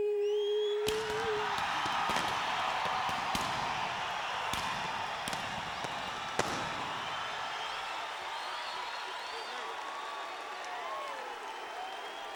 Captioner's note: crowd cheering